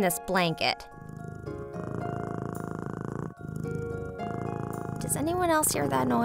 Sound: purring

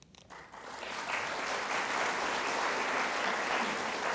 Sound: audience applauding

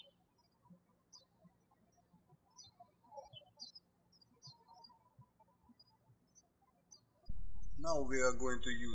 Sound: birds chirping

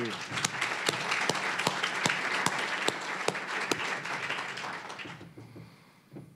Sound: applause

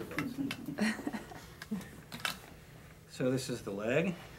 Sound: chuckling

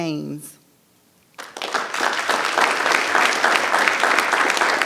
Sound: audience applause

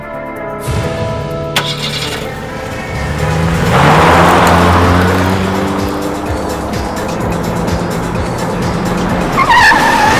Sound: car starts and races; brakes

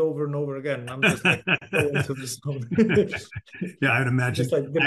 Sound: laughing

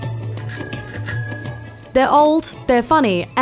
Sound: bell ringing

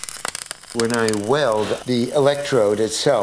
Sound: welding

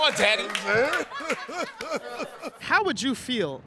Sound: laughs

